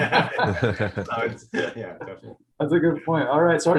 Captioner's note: laughter